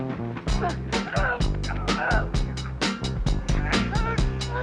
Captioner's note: both laugh; both grunting